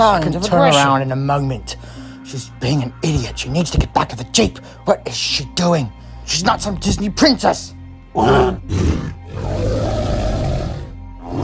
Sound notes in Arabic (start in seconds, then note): 8.1 أصوات ترايسيراتوبس